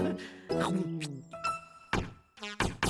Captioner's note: chomp!